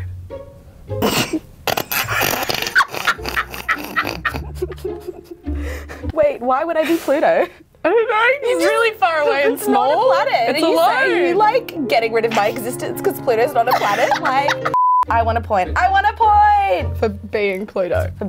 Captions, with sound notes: (snorts) (laughing) - Wait, why would I be Pluto? - I don't know, it's really far away and small? - I love it. - It's alone. - Are you like, getting rid of my existence 'cause Pluto's not a planet, like? (laughing) (beeps) I won a point. I won a point! - For being Pluto.